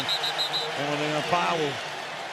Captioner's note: whistles